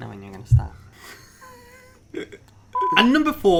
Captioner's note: laughter